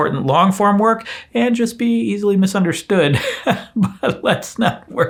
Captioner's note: laughs disingenuously